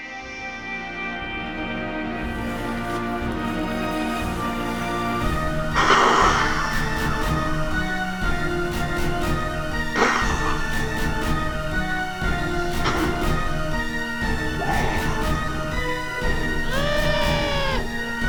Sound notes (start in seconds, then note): 3.9 snake hissing; 5.6 dramatic music; 8.9 snake hissing; 12.2 dramatic music; 16.6 screaming